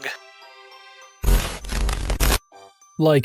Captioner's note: static